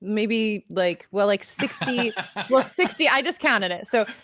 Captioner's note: laughing